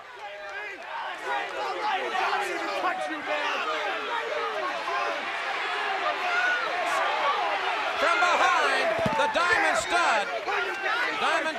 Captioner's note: crowd chatter